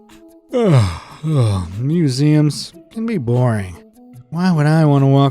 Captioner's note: yawns